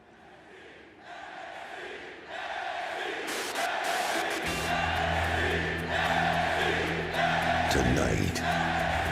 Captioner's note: fans chanting